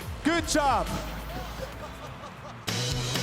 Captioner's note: laughter; rock musical flourish